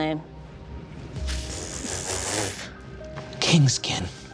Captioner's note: players snickering